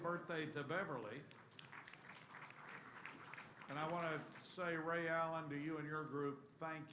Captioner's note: applause